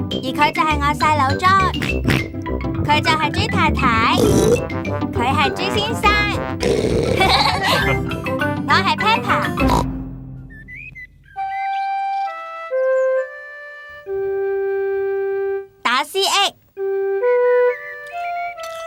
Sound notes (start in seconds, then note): 15.8 hiccups